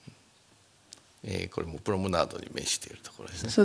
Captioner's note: speaking japanese